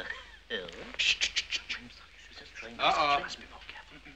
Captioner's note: shushing